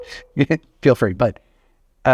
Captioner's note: chuckles